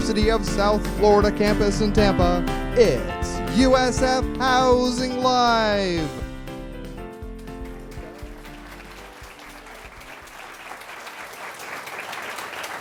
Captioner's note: applause